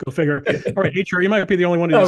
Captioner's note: laugh